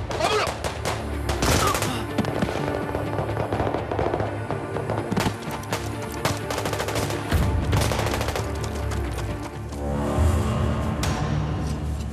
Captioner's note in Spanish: Disparos